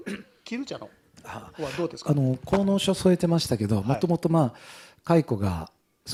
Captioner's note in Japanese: 咳払い